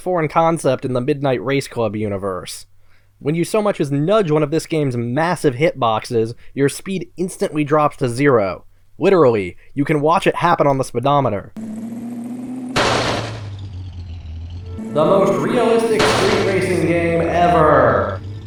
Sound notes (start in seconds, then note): 12.7 crash